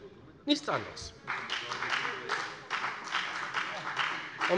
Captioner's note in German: Beifall bei der FDP